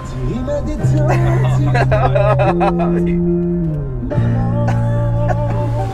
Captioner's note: trying to sing, but just laughing